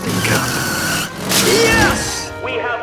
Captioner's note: car engine revving